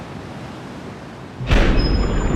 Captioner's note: slamming